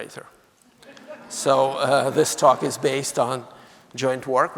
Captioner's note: audience laughing